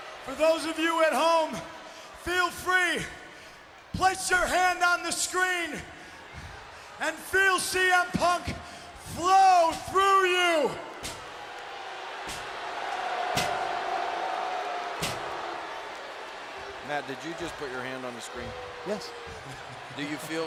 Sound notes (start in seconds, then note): 12.9 crowd booting